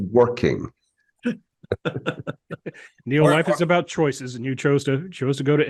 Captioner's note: laugh